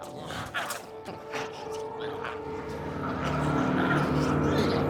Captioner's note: glowzies growling